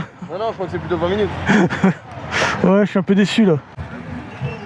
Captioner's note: laughs